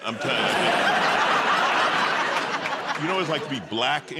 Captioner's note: laughter